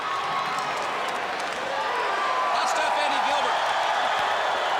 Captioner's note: crowd cheering